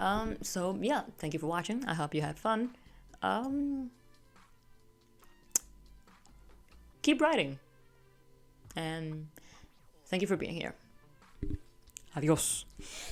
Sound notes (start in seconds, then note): 5.5 clicks tongue